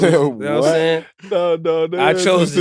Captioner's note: laughing